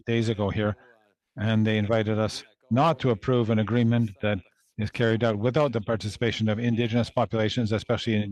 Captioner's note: speaking French